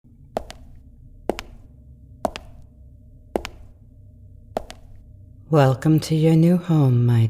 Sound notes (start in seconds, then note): 0.3 sfx: Footsteps walking and then stopping